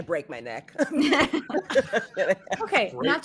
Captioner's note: all laughing